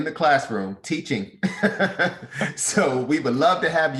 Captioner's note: laughs